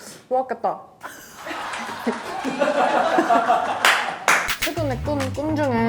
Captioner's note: staff managers clapping